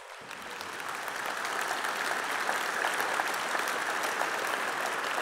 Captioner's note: applause